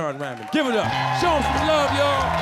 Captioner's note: audience cheering; upbeat jazz music